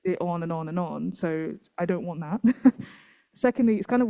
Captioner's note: laughs